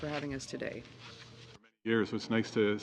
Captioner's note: speaking French